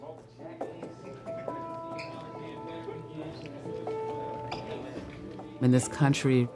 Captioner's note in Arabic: ثرثرة الناس; موسيقى محيطة تأملية